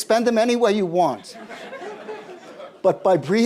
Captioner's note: laughter